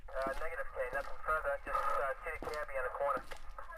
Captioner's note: radio Chatter